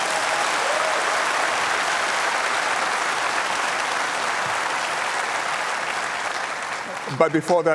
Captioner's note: applause